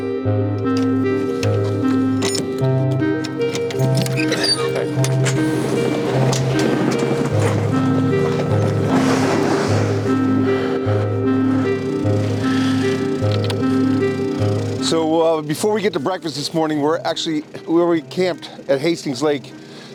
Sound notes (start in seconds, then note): 0.1 dramatic music; 2.0 latches creaking